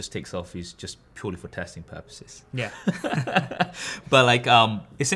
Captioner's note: laughs